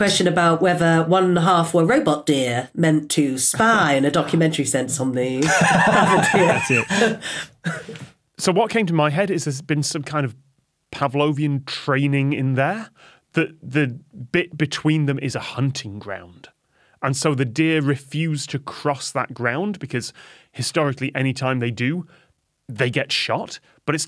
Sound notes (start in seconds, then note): 6.8 wheezes